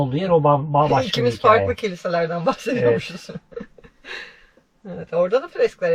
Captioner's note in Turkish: kahkaha